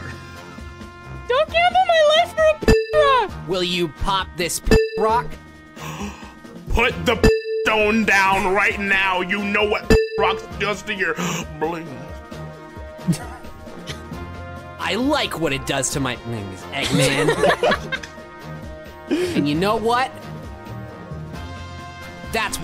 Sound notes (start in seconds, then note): 5.8 gasp